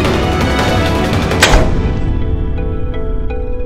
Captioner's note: Door closes